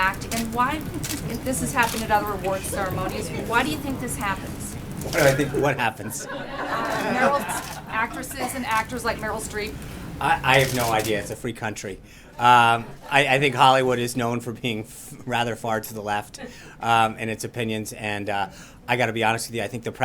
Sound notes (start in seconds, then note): 5.3 laughter